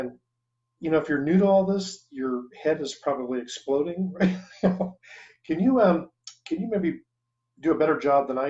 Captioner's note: chuckles